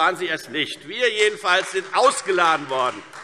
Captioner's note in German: Beifall Freie Demokraten